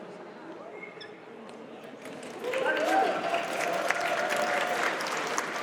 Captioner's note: audience cheers and applauds